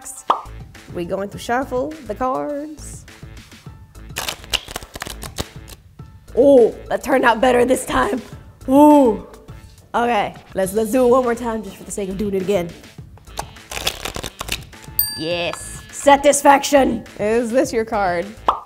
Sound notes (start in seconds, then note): 0.2 bubble pops; 2.8 light music; 4.1 cards shuffle; 13.3 cards shuffle; 15.0 bell dings